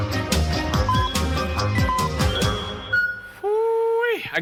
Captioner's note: beeping